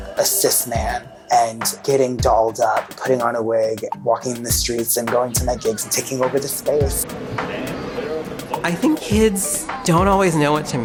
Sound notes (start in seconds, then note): 7.3 train conducting over speaker